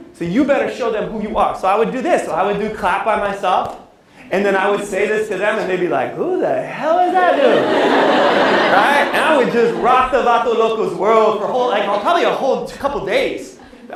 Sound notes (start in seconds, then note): 10.3 non-english speech